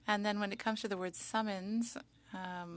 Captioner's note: speaking French